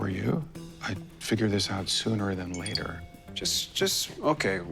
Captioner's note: phone chimes